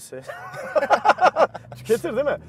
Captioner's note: laughings